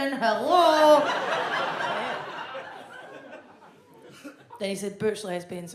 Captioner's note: audience laughs